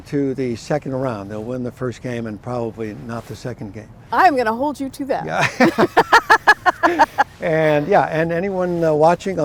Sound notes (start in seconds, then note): 5.3 both laughing